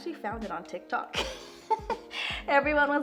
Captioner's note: laughs